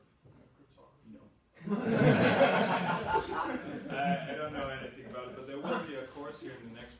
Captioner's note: laughter